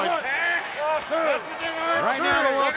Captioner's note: wrestlers groaning